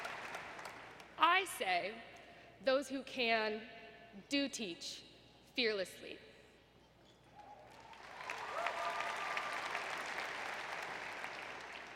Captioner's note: applause; applause